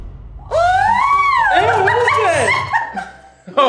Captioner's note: howling; laughs; laughing